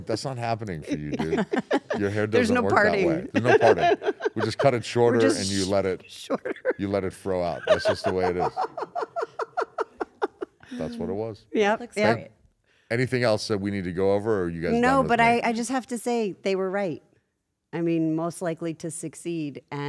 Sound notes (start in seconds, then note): 0.0 laugh; 7.2 laugh